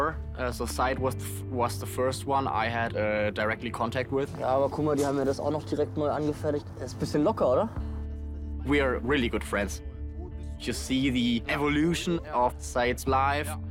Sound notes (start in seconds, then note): 4.0 in German